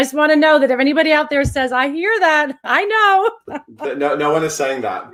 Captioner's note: laughs